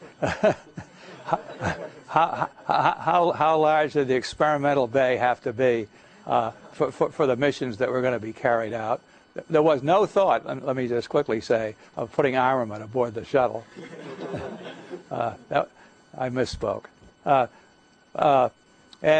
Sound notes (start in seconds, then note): 0.0 laughter